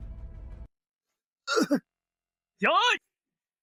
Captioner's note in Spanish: Cof